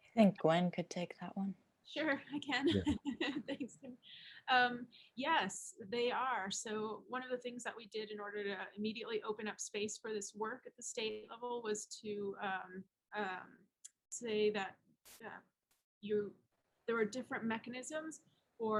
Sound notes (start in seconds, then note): 2.6 laughs